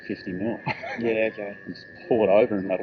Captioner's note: laughing